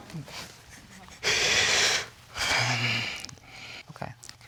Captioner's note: all laughing; breathing deeply